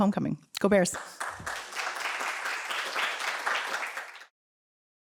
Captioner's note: applause